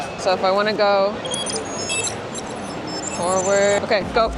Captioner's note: electronics chirping